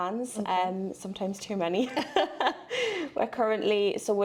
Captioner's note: laughs